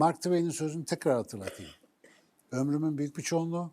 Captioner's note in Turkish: boğazını temizler